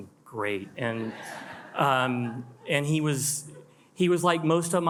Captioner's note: attendees laugh